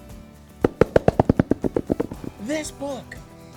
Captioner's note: fingers tapping